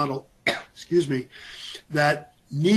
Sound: coughs

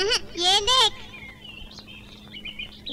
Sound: birds Chirping

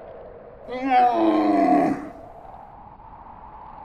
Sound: dromedary blathering

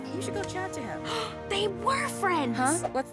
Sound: gasping

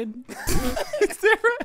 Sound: both laughing

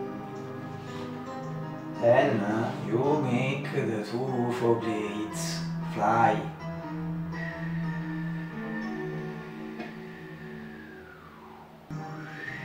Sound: whistle

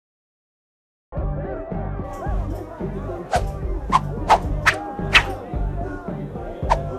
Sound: hands whooshing; upbeat music

